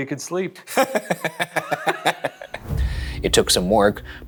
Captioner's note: laughs